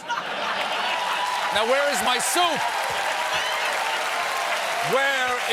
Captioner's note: laughter; cheers and applause